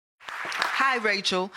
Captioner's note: audience clapping